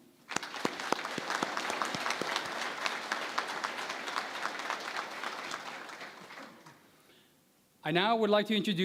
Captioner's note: applause